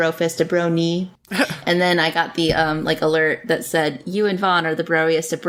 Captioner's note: laughs